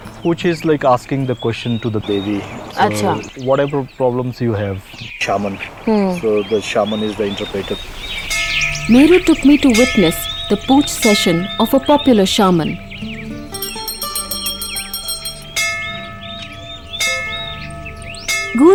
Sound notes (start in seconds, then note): 8.0 birds chirpping; 8.3 bell chimes; 12.9 soft music; 13.4 bell chimes